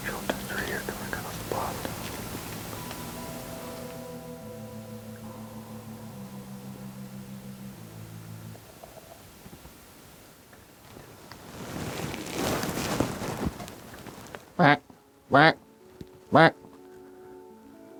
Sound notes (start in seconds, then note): 15.2 deer calling